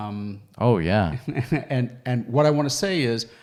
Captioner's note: chuckles